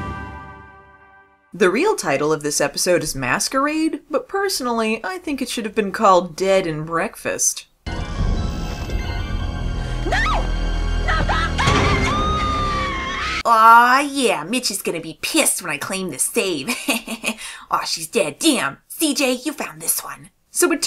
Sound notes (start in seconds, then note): 11.0 screams; 16.6 laughs